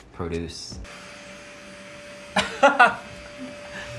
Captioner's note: vacuum whirring